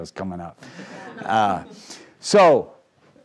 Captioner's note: crowd laughing